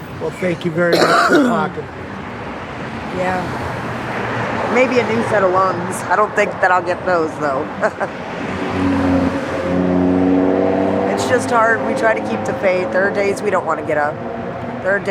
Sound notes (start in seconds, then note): 7.8 laughing; 10.1 traffic whirring